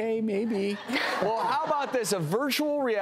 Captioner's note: audience laughing